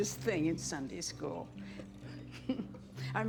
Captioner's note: giggles